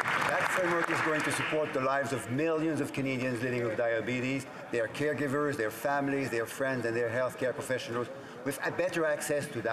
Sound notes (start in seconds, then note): 2.4 some Applause